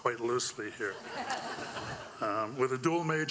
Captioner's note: audience laughing